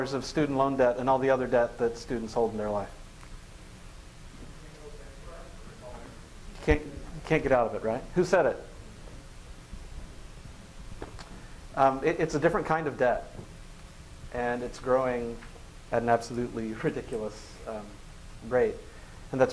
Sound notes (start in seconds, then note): 4.9 voices from the audience